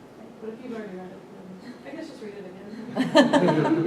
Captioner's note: laughter